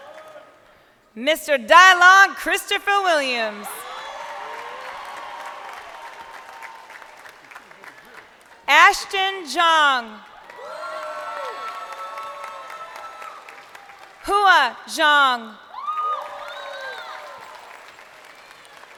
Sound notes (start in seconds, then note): 0.2 crowd cheering; 7.6 crowd cheering; 14.3 crowd cheering